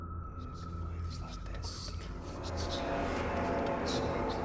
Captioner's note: ghostly voices whispering